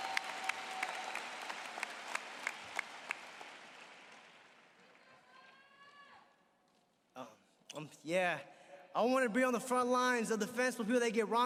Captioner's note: applause